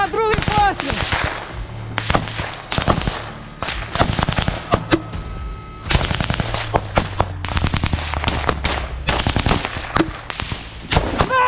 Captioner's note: screaming